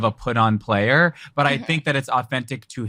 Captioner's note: laughs